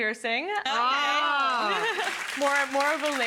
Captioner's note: audience applauding